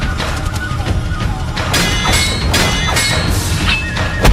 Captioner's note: swords clang